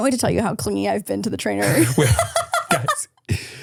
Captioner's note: laughs